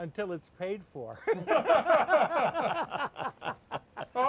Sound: all laugh

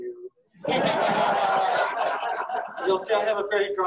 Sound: audience laughing

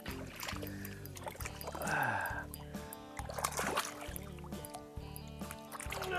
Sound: sighs

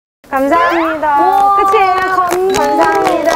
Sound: clap

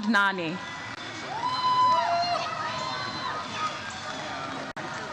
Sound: audience cheers

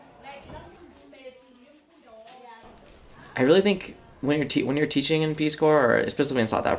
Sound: kids talking

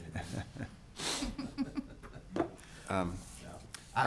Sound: laughing

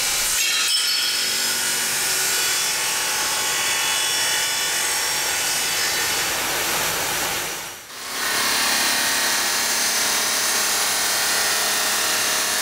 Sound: metal clangs; machine noise

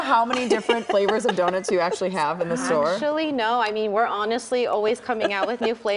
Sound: laughter

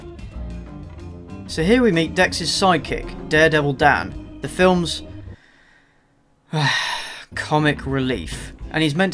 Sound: sigh

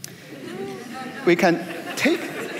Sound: laughter

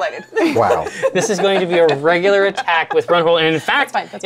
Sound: laughs

